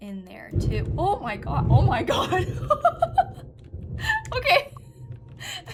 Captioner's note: thunder